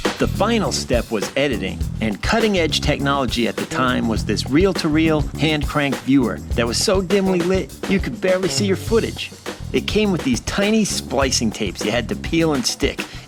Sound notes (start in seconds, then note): none